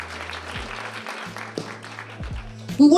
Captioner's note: audience applauding